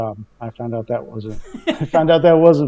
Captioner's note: laughing